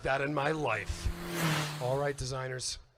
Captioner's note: engine whooshes and revs